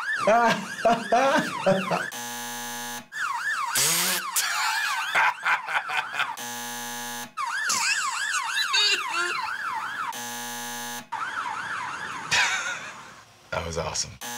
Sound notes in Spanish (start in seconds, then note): 0.2 Risas; 0.8 zumbador; 3.6 Chisporroteo; 4.2 Se ríe a carcajadas; 6.3 zumbador; 12.3 Risas; 14.2 zumbador